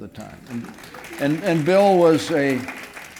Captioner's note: applause